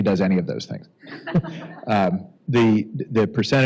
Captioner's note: laughter